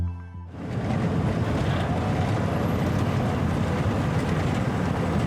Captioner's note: truck Engine